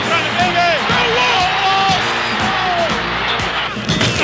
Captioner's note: crowd cheering